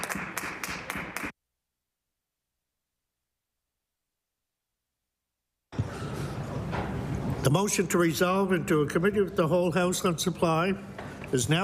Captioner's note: applause